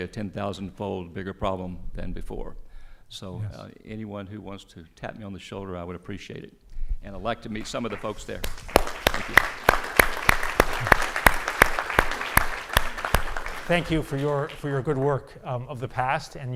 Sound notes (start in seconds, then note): 9.4 audience applauding